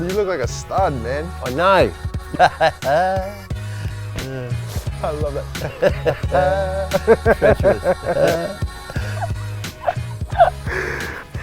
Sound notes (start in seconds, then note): 5.5 laugh In Sync